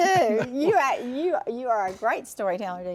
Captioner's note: laughs